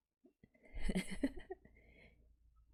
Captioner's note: laughs